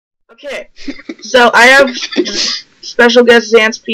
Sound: asshole Laugh

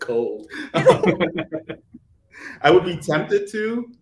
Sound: all laughing

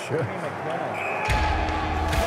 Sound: whistle

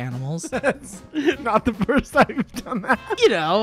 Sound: laughing

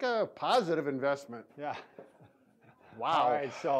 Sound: laughs

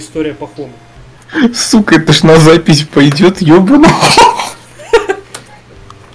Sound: laughing

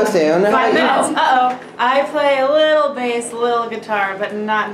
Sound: exclaims

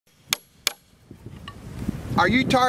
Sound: hammering metal

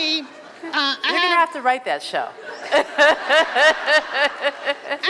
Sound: laughs

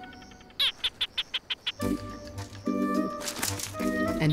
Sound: gecko chirping

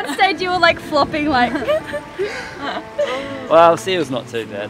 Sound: laughing

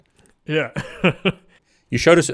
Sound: laughing

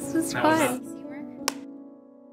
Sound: snaps clapboard

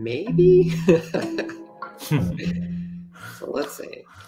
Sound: laughs

